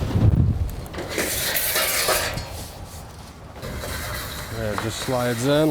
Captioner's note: metal scraping